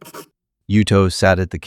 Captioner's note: SFX: pencil